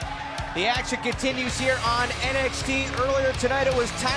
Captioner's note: crowd cheering